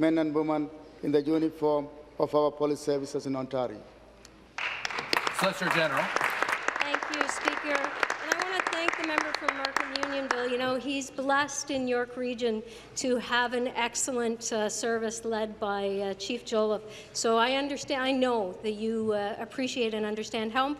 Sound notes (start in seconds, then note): 7.5 applause